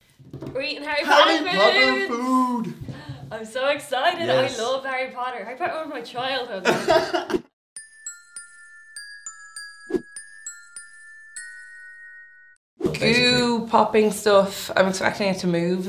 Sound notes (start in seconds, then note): 6.6 laughs